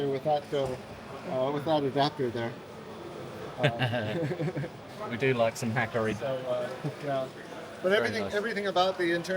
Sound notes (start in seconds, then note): 3.6 laughing